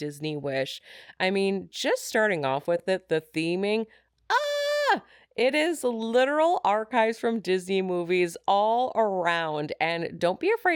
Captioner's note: screams